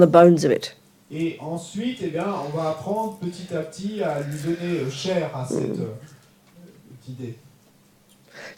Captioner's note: French